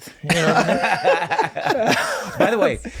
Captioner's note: laughing